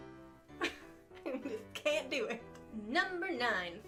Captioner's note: laughs